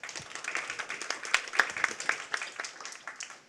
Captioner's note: audience applauds